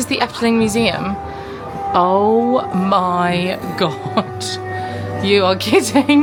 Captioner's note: chuckling